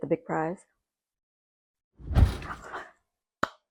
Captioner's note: woosh!